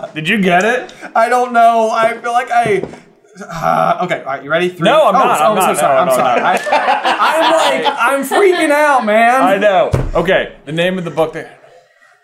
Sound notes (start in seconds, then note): 6.0 cracking up